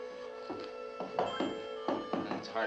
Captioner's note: thudding